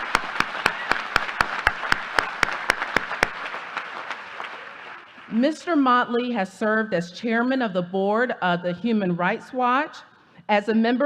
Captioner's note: applause